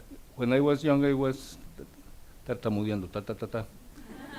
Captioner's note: speaks Spanish; audience laughs